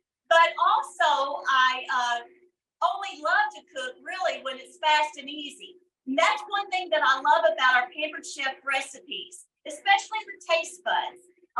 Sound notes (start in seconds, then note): none